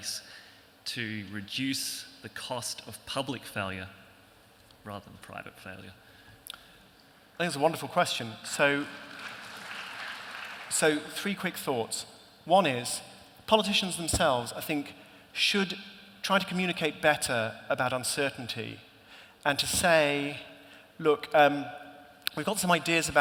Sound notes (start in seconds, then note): 8.7 applause